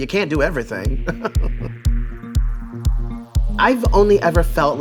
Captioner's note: laughing